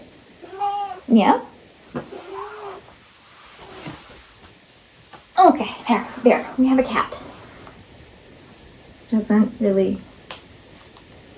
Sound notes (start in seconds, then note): 2.0 meowing; 2.0 meowing again